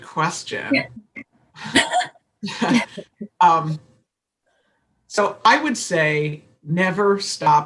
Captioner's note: laughter